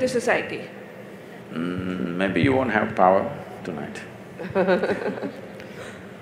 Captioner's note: Barkha Dutt Laughs